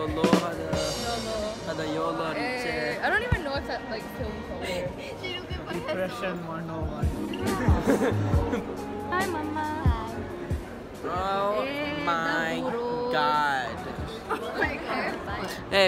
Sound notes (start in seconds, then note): 0.0 ba Dum Tss; 7.5 laughter